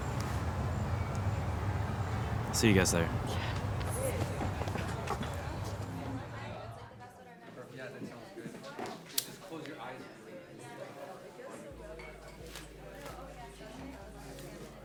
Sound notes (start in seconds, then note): 6.7 people chattering